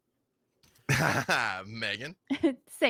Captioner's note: laughs